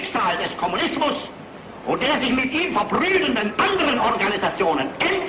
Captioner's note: speaking foreign language